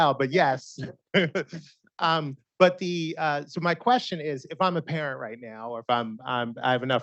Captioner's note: laughs